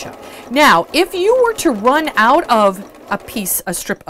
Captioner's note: sewing Machine Sounds